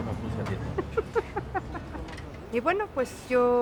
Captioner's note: laughs